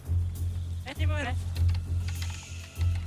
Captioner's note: soldier speaks foreign language